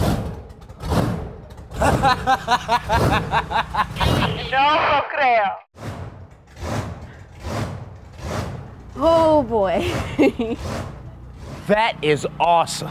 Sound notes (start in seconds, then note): 1.7 laughs